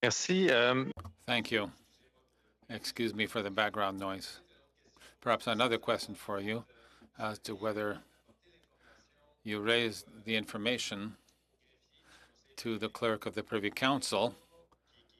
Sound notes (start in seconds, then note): 3.1 speaking French